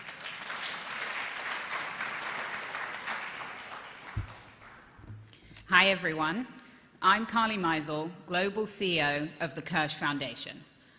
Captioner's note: applause